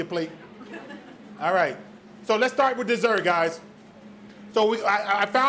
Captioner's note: audience laughs